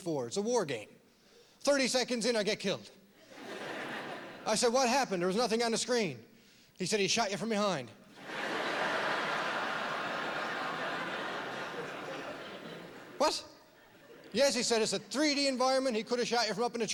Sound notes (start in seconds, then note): 8.1 laughter